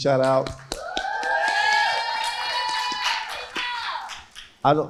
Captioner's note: crowd cheering